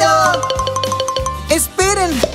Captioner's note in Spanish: Sonido de campana